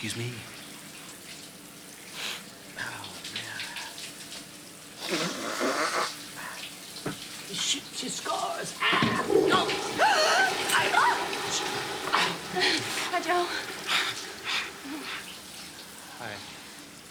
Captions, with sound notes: Oh, excuse me. Oh, man. (Dominguez blowing nose) He shoots, he scores. Ah! No! (Cassidy gasping) Hi, Joe. Hi.